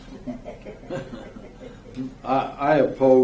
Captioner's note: laughing